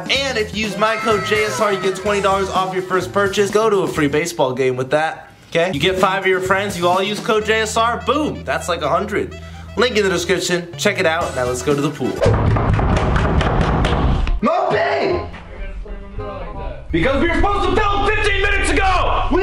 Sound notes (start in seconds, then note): 12.2 thudding